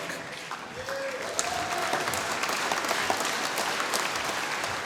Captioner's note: applause